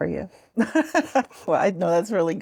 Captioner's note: host chuckling